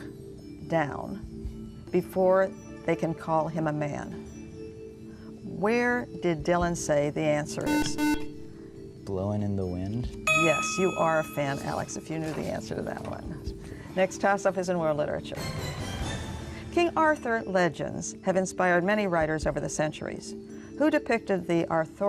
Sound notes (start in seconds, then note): 5.9 buzzer